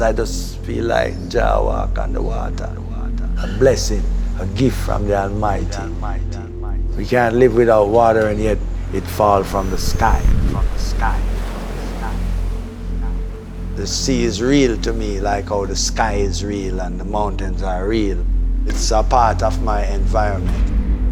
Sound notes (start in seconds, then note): 11.0 waves crashing